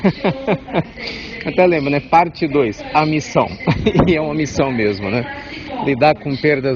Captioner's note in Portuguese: risos